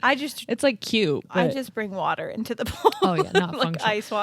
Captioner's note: laughing